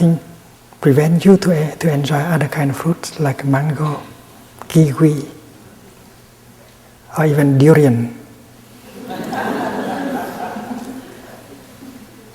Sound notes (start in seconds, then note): 8.7 laughter in the audience